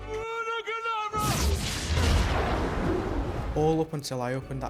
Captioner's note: dramatic shrieking